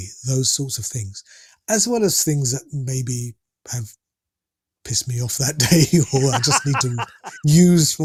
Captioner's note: laughter